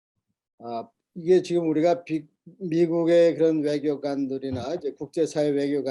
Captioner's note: speaking Korean